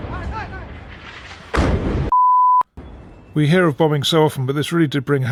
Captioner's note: bomb exploding